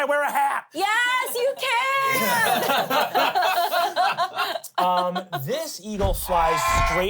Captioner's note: everyone laughs